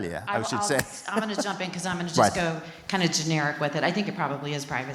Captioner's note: laugh